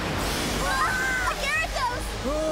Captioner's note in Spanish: gritan